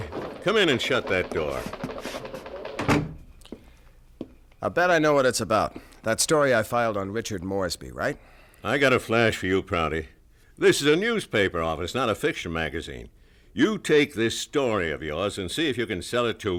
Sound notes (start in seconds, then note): 2.4 door closes